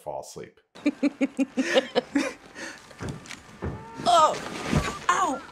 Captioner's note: people laughing